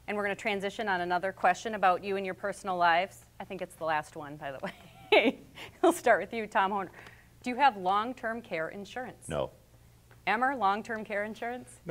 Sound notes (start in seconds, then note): 4.8 laughs